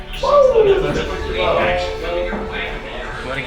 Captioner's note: commentators over office speakers